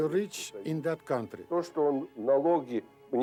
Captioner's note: speaks in foreign language